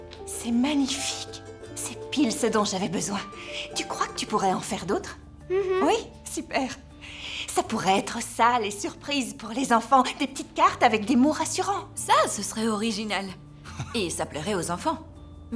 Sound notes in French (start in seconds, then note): 13.7 rires